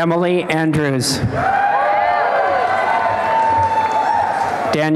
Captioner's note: applause and cheering